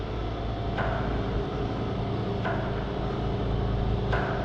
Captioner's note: repeated clacking